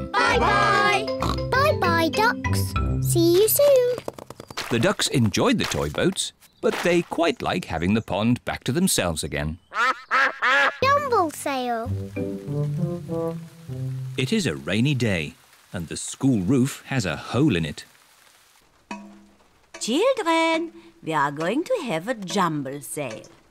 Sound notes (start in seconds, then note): 9.7 duck quacks